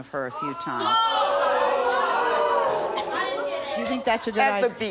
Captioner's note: audience gasps